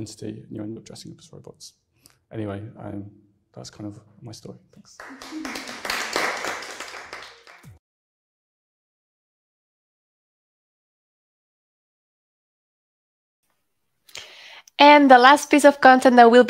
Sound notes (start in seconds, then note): 4.9 audience applauds